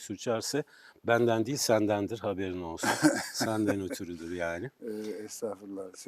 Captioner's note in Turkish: kahkaha